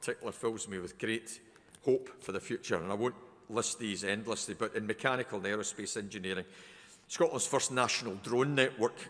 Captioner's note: none